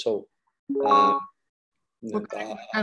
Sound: beep sound

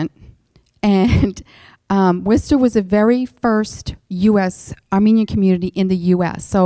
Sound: chuckles

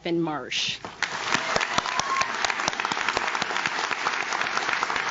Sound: audience claps

